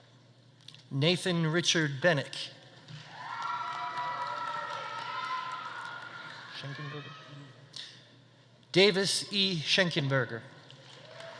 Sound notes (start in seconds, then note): 3.0 audience applauding; 3.0 audience cheering